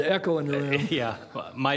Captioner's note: laughter